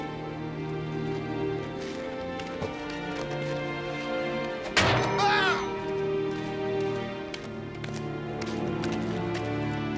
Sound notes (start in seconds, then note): 5.0 yelling